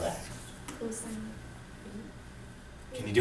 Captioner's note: voiceover